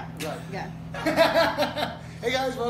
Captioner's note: laughter